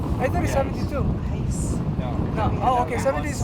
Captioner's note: overlapping chatter